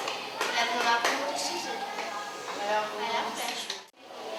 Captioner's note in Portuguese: Fundo de vozes de crianças fora da sala de aula